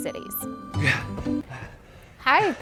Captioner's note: out of breath